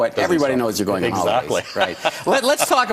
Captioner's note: laughs